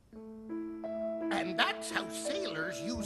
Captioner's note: none